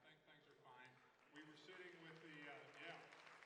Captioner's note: audience applauds